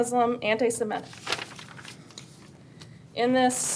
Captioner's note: papers rustle